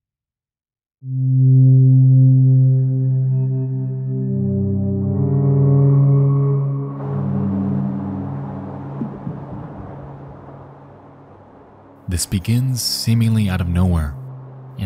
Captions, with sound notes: (high intensity music) (wind whirring) This begins seemingly out of nowhere